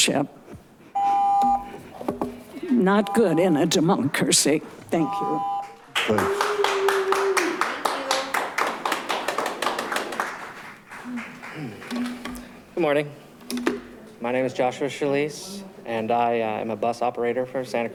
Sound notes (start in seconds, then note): 0.9 continuous beeping; 5.9 audience claps